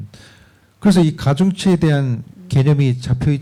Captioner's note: speaking korean